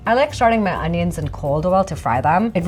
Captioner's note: none